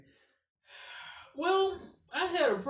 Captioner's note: exhales